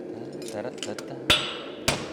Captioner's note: hums; metallic hammer blows